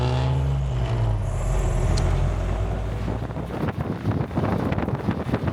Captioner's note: engine revving